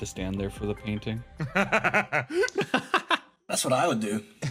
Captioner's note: laughs